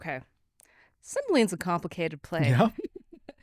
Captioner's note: laughs